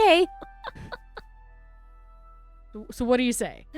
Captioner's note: laughter